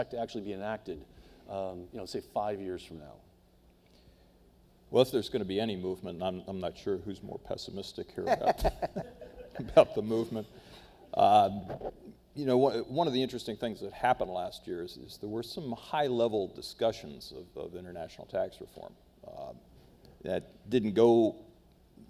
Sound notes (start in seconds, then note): 8.2 laugh